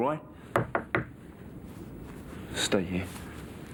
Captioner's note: knocking on door